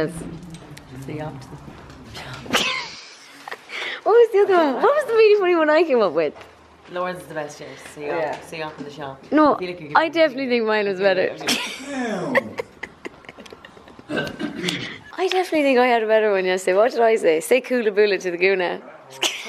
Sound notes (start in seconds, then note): 2.3 laughs; 12.2 laughter